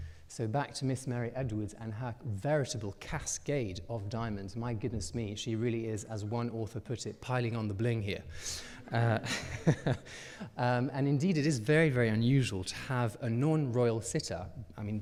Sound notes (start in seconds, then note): 8.8 chuckles; 8.8 audience laughing